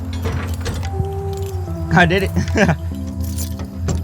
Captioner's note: laughs